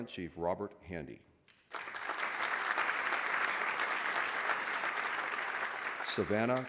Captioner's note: applause